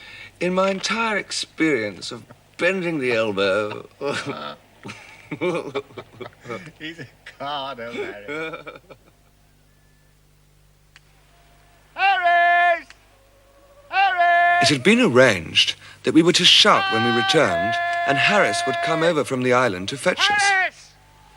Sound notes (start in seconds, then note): 4.8 both chuckling